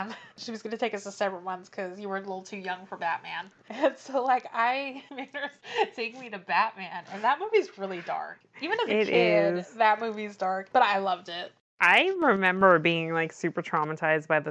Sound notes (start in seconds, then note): 6.5 laughs